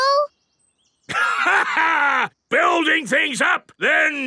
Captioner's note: laughs